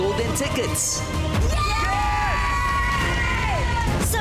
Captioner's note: cheering